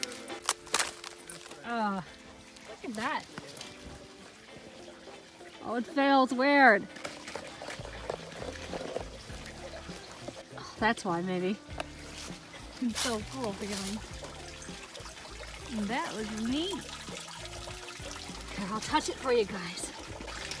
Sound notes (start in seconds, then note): 6.8 me scratching and tapping the ice; 15.2 loud, hollow, water falling and splashing sound